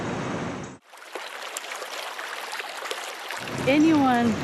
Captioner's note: water flowing